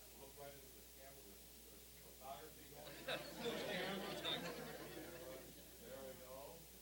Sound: audience laughing

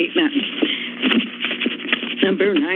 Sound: rustling sound

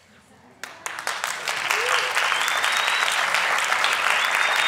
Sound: audience applauding

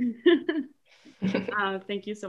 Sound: laughs

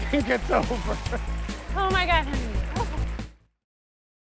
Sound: cheers and applause

